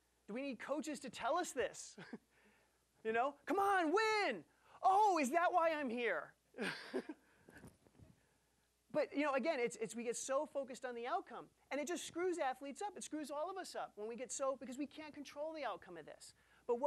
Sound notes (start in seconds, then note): 2.0 chuckling; 6.6 laughing